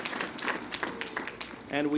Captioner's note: applause